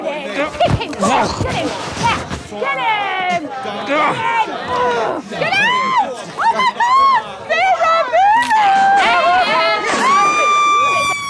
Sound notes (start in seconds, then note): 8.5 snap